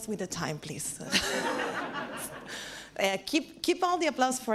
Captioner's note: laughs